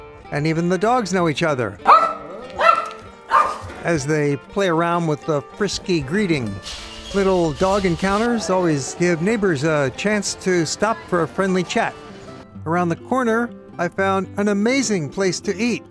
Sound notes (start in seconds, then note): 3.2 dog barks